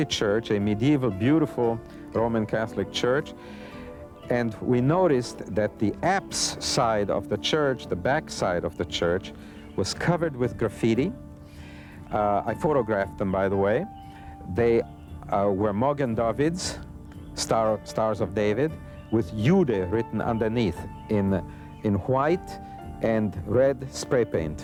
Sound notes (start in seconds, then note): 19.0 speaks foreign language